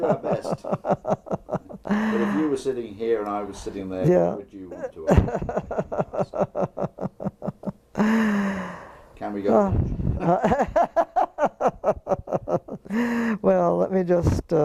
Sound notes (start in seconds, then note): 0.0 laugh; 6.1 laugh